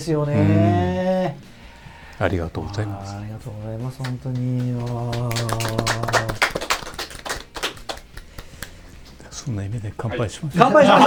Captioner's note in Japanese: 拍手👏